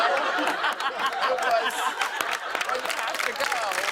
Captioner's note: laughter